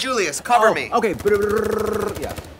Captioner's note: makes gun sounds